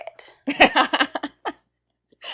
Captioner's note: laughs